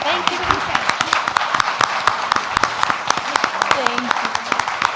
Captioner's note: audience applauds